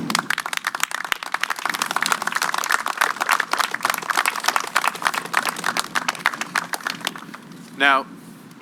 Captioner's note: applause